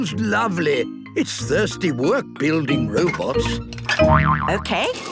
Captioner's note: boing!